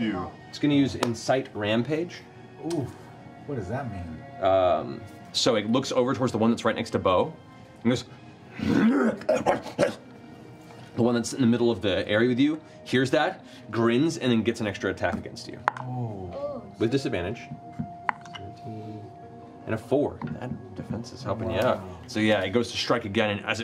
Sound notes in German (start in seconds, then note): 8.9 knurren